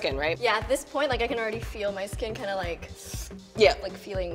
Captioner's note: slurping